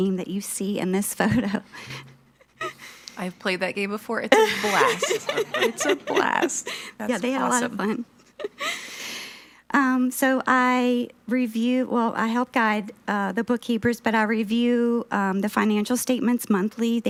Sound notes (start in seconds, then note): 4.2 laughing; 4.3 and participants laughing; 8.2 laughing